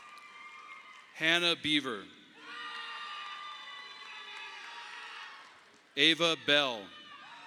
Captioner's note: audience applauding; audience applauding; audience applauding